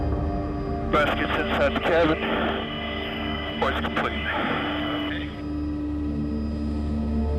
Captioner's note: man On Radio